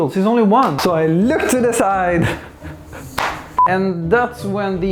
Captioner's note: tehehe